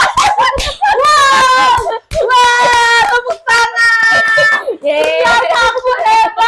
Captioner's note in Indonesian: berteriak